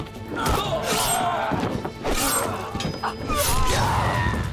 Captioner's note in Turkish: Kılıç sesleri